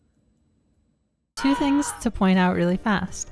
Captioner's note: ambient TV power-down noises; anguished scream